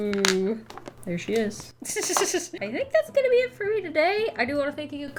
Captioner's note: laughs